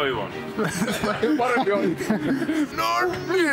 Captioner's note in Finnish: naurahduksia